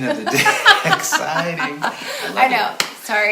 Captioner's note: both laughing